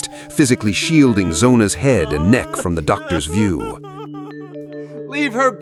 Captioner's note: SHUE crying; yelling